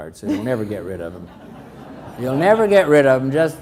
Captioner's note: crowd laughs